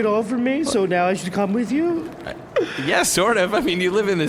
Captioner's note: laughing